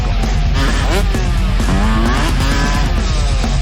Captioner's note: engines revving